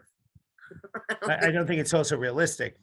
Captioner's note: chuckles